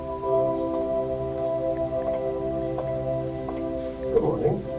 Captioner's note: foot steps